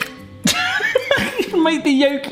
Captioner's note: laughs